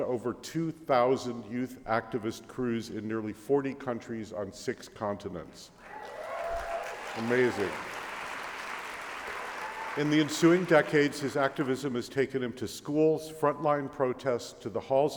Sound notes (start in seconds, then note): 5.8 applause